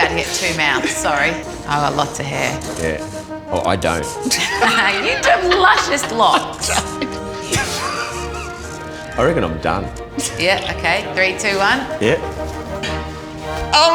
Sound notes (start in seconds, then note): 4.0 both laughing; 8.1 laughing